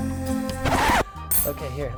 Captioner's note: record scratch